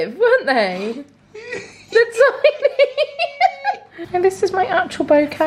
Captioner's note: both laughing